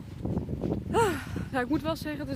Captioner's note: sigh